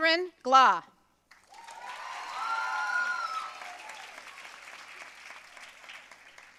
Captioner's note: audience cheering and applauding